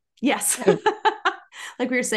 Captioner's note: laugh